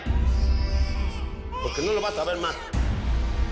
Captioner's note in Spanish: Llanto del bebé